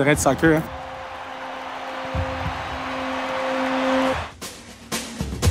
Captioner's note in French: clameur